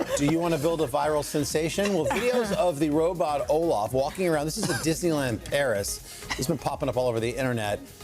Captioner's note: laughter; laughter